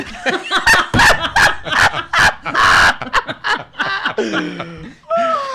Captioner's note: laughs